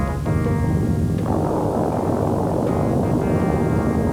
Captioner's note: rocket engine roaring